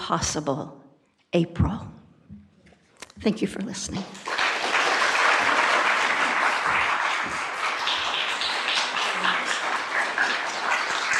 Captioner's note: applause